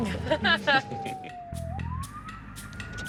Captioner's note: laughter; siren wailing